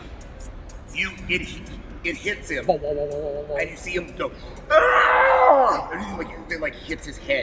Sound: anguished cry

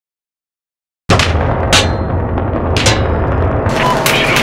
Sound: bullets Ricocheting

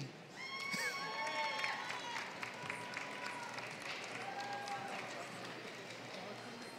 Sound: applause

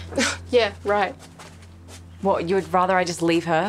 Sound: scoffs

